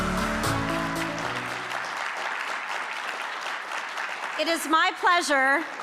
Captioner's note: upbeat music; audience clapping